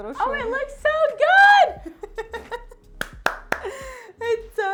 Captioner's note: laughs